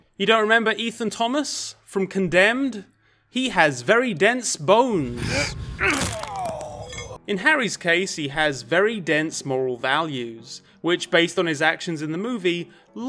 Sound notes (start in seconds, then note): 5.0 man groaning; 5.2 bones crunching